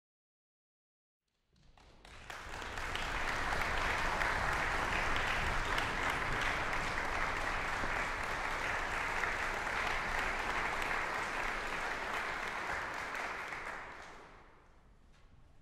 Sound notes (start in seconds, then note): 1.6 audience applause